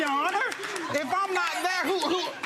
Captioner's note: audience applauds